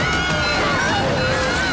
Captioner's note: screaming